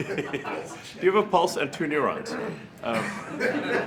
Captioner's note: laughter